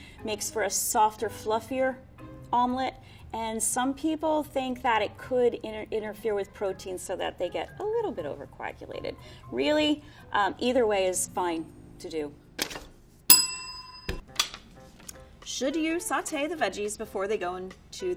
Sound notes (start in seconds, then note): 13.3 bell rings